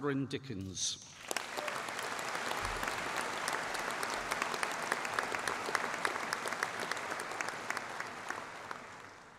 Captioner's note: applause